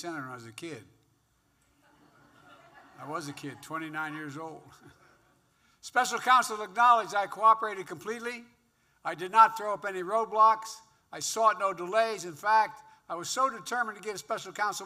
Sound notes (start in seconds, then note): 1.7 laughter; 5.1 laughs